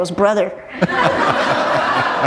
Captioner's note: laughter